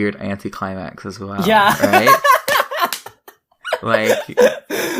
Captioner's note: slapping sounds; laughs